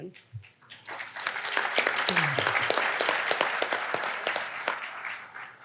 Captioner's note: audience applauding